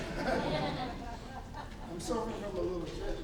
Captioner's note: laughing